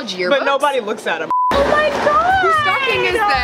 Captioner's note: high pitched beep